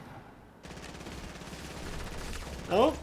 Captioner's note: gunfire